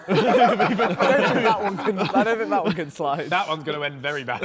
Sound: men laughing

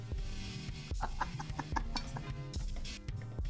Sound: laughter

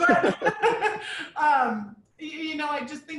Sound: people chuckling

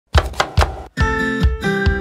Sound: chopping; upbeat music

